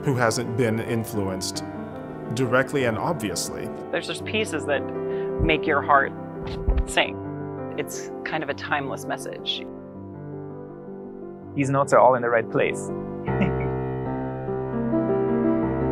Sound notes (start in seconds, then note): 13.2 laughs